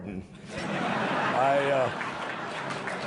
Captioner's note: laughter